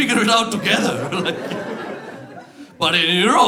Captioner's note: laughter